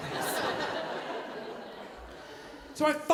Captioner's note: audience laughing